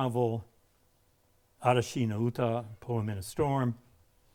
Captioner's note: speaking in a foreign language